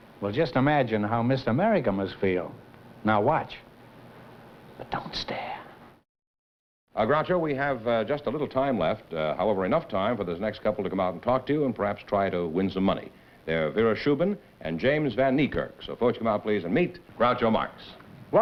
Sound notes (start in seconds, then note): 4.4 whispering